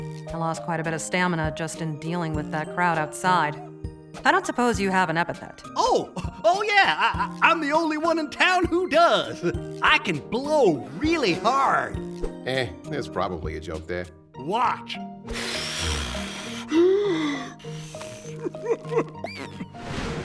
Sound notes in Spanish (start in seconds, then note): 15.2 Soplido patético; 18.4 Sopla como asmático